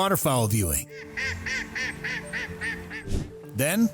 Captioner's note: ducks quacking